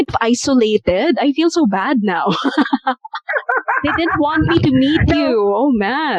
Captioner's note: laughter